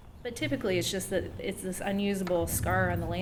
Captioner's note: voiceover